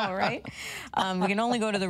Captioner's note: laughs